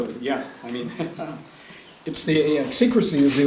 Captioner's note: laughs